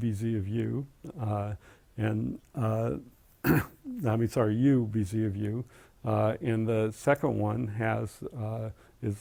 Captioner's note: cough